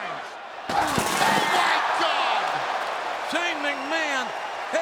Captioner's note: glass shattering